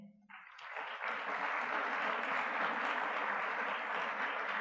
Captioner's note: audience clapping